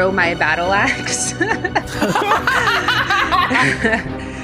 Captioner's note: laughing